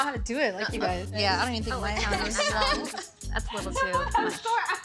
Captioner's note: indistinct chatter